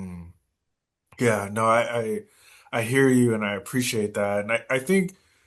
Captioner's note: hums in agreement